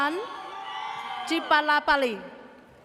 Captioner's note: audience cheers